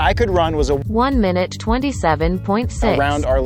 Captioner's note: automated Voice